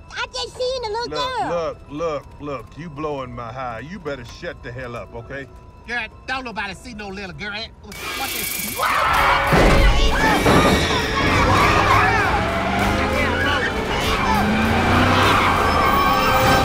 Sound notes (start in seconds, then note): 9.1 tires screeching; 10.4 all screaming; 14.5 tires screeching